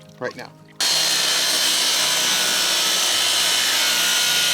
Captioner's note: saw roaring